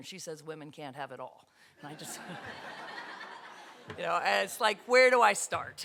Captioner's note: audience laughter